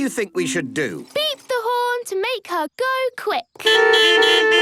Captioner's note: beeping